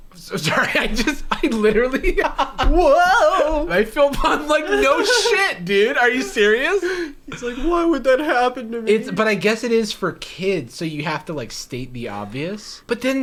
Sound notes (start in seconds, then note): 2.4 laughter